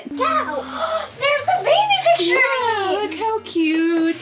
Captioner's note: gasp